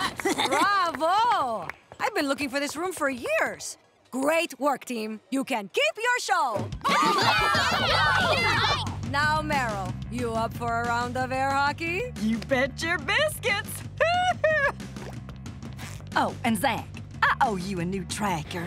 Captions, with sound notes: Bravo. [clapping] I've been looking for this room for years. Great work, team. You can keep your show. [cheering] Now, Meryl, you up for a round of air hockey? You bet your biscuits. [chuckles] Oh, and Zack, I owe you a new tracker.